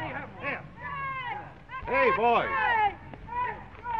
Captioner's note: men shouting